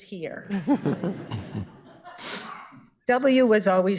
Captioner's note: all chuckling